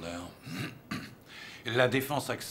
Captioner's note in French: raclement de gorge